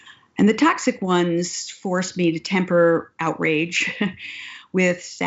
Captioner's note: laughs